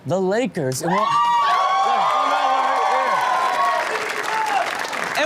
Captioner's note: audience claps and cheers